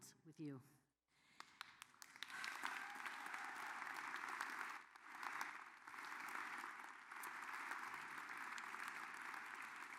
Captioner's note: applause